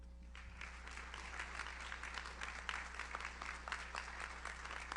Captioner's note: audience applauds